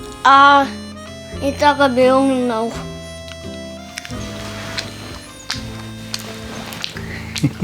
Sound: laughs

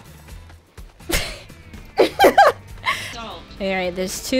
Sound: both laugh

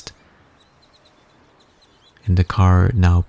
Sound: birds chirping

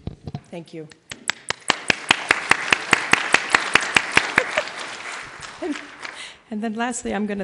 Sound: applause

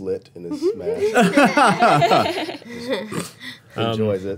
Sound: all laughing

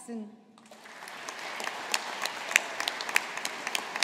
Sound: audience applauding

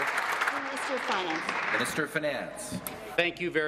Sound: applause

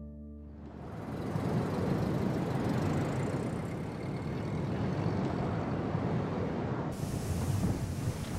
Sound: wind howling

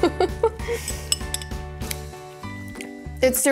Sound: chuckling

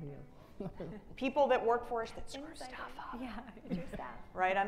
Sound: faintly speaking

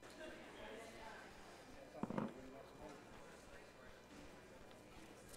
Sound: people talking quietly

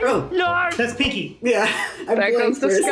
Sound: laughs

